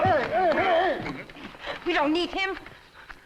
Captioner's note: shouting